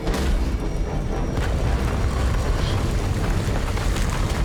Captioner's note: rumbling continues